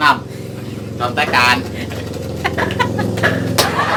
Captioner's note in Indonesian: tertawa